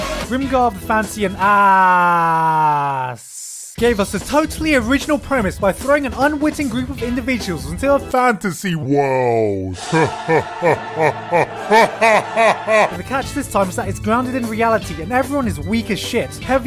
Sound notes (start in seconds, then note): 8.2 creepy voice; 9.7 creepy laugh